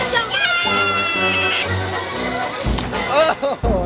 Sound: yelling

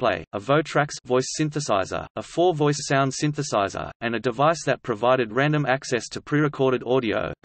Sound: voice synthesizer

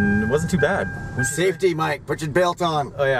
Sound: seatbelt chime ringing

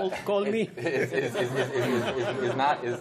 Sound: laughter

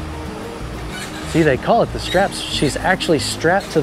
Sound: bar screeching

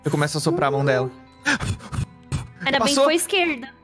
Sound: blowing

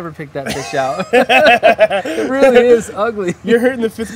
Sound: laugh

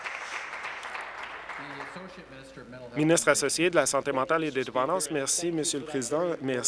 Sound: applause

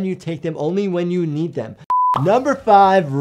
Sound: video beeping

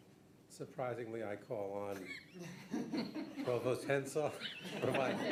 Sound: laughing

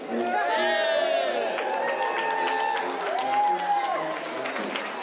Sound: crowd cheers and applauds

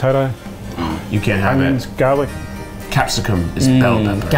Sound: gasping

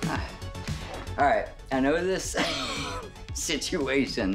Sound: laughing

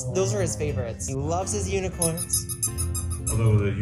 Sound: toy squeaking

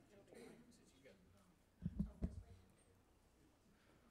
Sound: people chatting

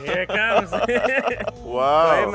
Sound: laughing

